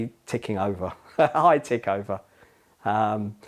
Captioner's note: laughter